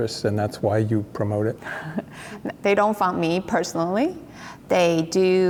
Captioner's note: laughs